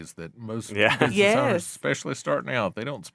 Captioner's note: laughing